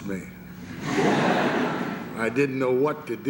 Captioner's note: laughter